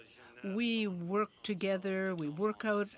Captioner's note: speaking French